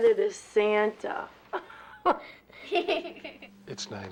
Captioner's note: all laugh